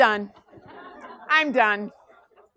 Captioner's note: class laughs